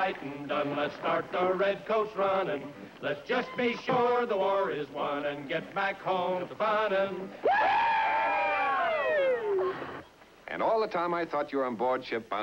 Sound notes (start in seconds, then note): 7.4 cheering